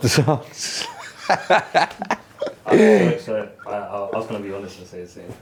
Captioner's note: all laughing